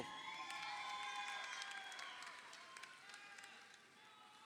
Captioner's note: crowd cheering